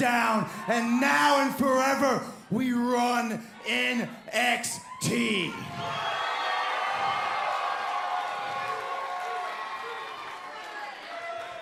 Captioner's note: crowd cheering